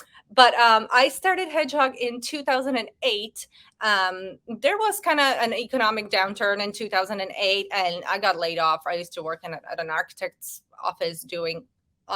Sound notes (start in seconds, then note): none